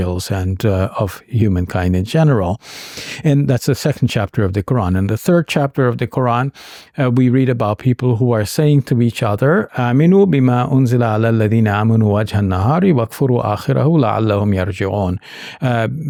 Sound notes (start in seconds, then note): 9.8 speaking Arabic